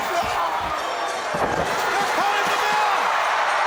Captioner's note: bell rings